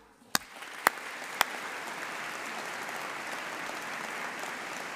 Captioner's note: audience applauding